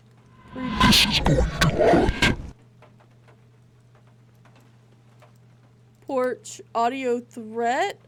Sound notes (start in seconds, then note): 0.4 mechanical Swooping; 1.4 deep Voice